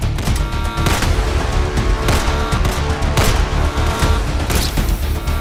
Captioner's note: dramatic upbeat music; guns firing